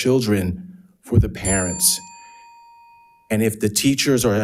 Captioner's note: bell ringing